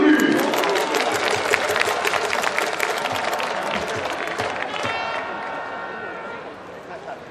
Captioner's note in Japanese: 拍手･応援